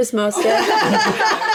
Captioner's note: laughing